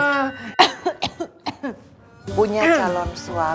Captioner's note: coughs